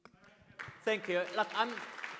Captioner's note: audience claps